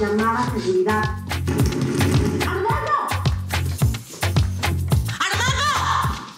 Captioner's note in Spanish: Toques en la puerta continúan